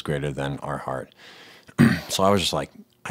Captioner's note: clearing throat